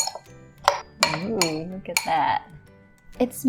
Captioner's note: spoon clanking